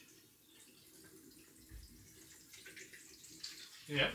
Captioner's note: water splashing